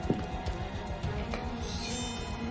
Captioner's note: metal r ringing